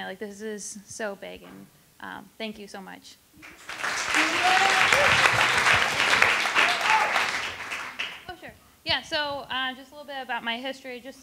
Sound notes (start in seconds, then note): 3.4 attendees applauding